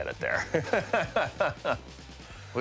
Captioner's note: laughs